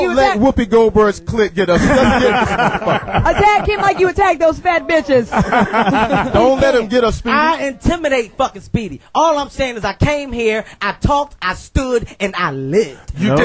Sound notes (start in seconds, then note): 1.7 all laugh